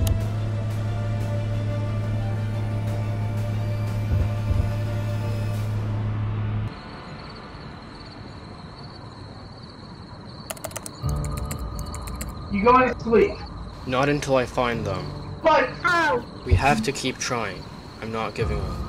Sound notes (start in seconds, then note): 8.1 crickets Chirping; 10.4 keyboard Sounds; 11.0 intense Music